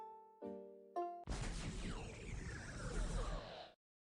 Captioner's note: crash